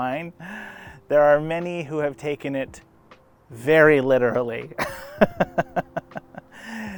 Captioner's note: laughs